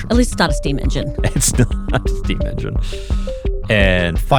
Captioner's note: chuckles